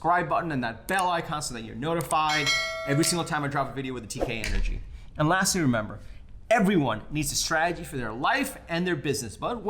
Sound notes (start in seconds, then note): 2.3 bell chimes